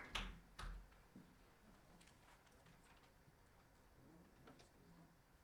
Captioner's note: applause